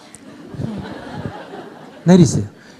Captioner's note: audience laughter